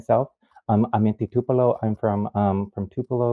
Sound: speaking in foreign language

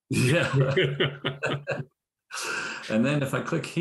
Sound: laughter

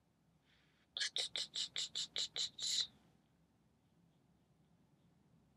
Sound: shushing

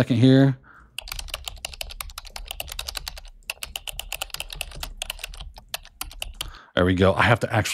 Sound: keyboard clicking

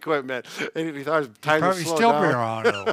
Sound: chuckling

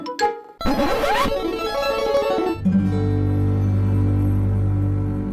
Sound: record scratches/Capcom jingle

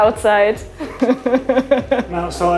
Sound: laughs

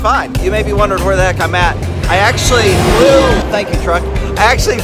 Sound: loud truck honks

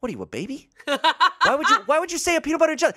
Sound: laughs

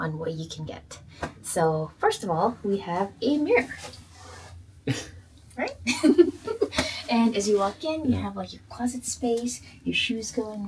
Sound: laughter

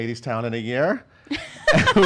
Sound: laugh

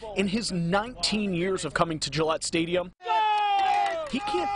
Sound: cheering

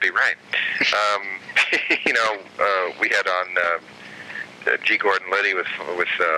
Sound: laughing

